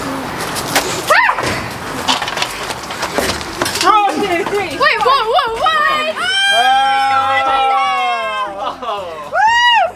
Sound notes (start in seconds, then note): 1.1 child yelling; 4.2 all shout; 6.4 excited exclaiming